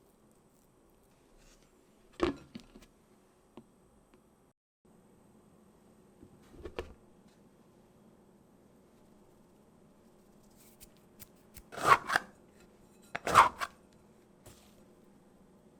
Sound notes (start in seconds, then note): 13.3 folding